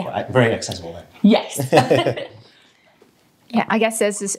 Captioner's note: both laughing